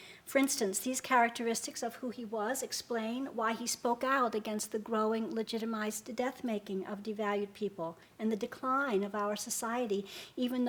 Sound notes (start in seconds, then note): none